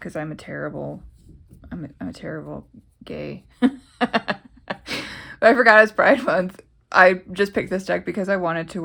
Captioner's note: laughs